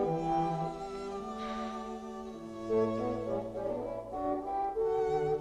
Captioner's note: Hundra sighs